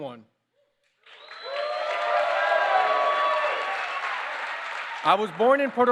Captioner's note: applause